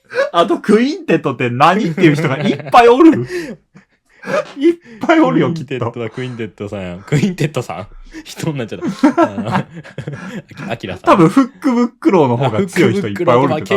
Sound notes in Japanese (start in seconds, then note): 3.1 笑い; 10.0 笑い